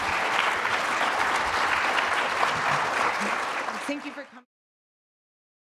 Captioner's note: applauding